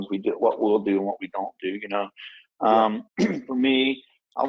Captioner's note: clears throat